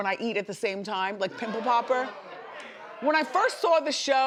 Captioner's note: audience groaning